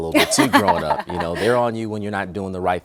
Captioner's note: laughing